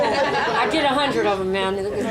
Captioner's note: audience laughing